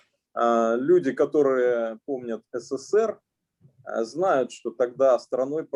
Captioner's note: speaking Russian language